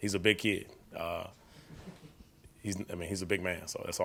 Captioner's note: all gently chuckling